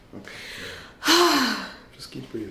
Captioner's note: sighs